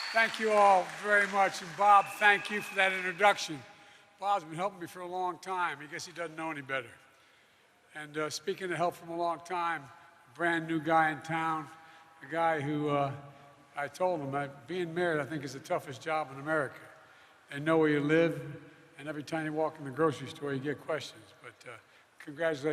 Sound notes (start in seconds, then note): 2.5 cheers